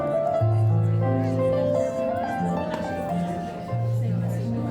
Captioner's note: crowd chattering